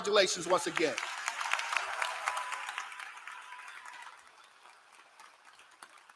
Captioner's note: applause